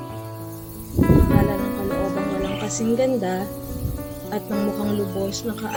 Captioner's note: narrator speaking in Tagalog